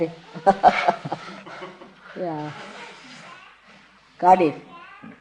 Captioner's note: mother chuckles